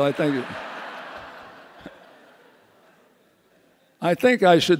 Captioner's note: audience laughs